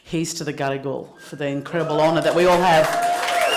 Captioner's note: applause